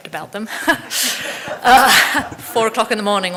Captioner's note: audience laughing